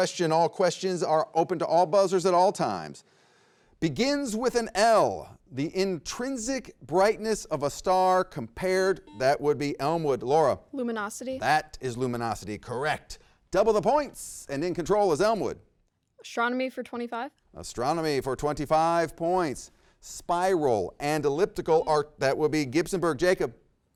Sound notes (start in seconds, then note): 9.0 buzzer rings; 21.1 buzzer rings